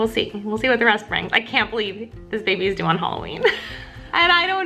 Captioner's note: laughs